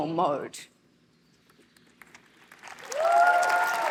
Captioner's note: applause